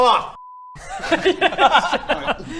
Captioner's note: laughs